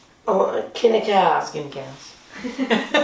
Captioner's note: laughter